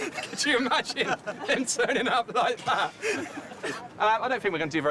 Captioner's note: laughing